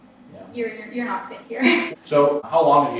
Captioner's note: laughs